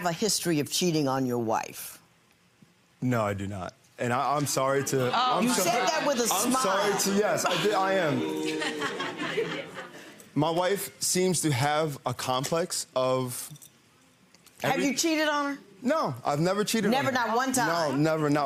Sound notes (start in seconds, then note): 5.2 audience groans; 8.1 audience boos